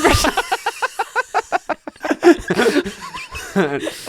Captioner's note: laughing